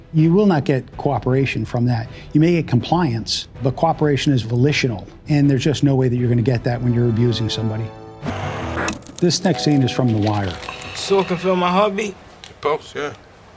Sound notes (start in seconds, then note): 8.3 static